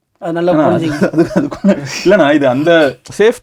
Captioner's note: laughing